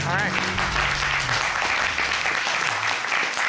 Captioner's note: audience applauding